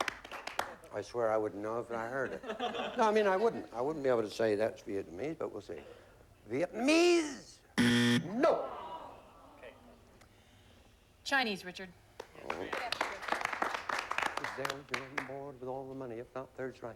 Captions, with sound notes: I SWEAR, I WOULDN'T KNOW IF I HEARD IT. NO, I MEAN, I WOULDN'T. I WOULDN'T BE ABLE TO SAY THAT'S VIETNAMESE. BUT WE'LL SEE HERE. VIETNAMESE! [BUZZER] NO. CHINESE, RICHARD. IF IT'S THERE, YOU GET ALL THE MONEY. IF NOT, THIRD STRIKE.